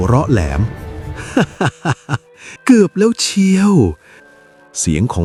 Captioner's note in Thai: เสียงหัวเราะ